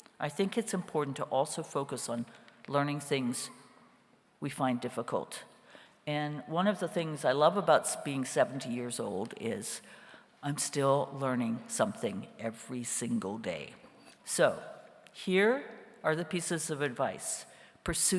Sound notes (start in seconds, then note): none